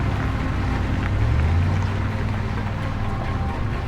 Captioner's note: engine rumbling